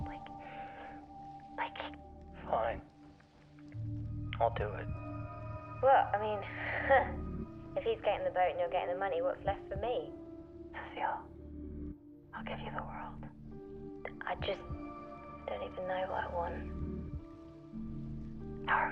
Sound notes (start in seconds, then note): 7.2 chuckles